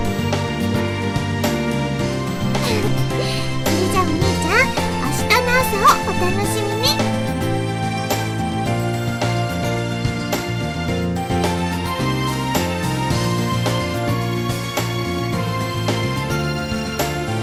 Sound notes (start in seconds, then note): 2.5 chuckles